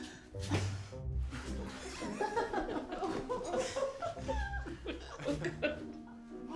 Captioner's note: everyone laughing